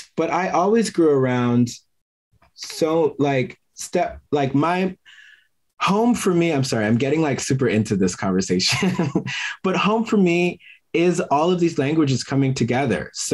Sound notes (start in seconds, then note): 9.0 laughs